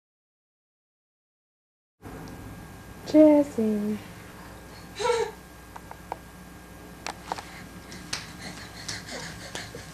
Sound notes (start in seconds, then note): 4.8 giggles